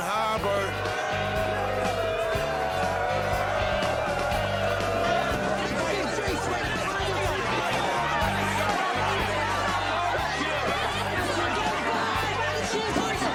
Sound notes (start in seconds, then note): 0.2 Aplausos; 4.3 Todos gritando